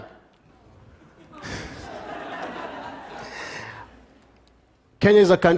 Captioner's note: laughter